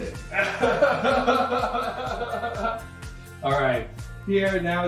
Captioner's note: laughs loudly